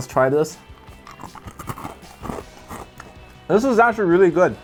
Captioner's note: snack crunching